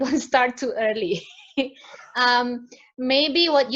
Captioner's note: laughs